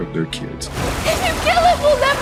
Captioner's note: water whooshing